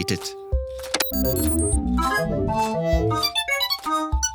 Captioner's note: computer noises